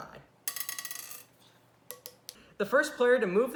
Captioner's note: fast Forwarded Sounds